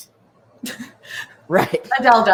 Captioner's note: chuckles